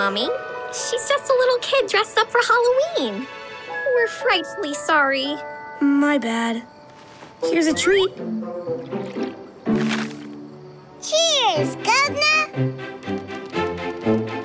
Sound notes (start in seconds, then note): none